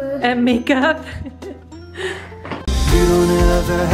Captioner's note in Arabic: يضحك